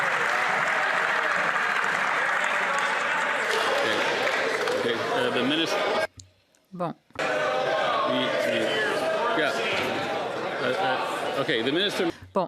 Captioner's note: cheers & Applause